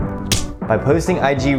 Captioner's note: skin slapping